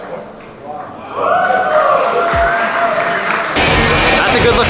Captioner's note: audience claps and cheers